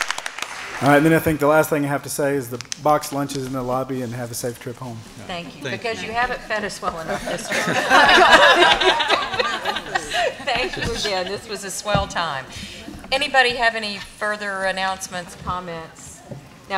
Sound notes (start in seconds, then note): 7.0 laughter